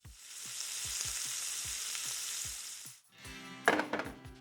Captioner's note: sizzling sound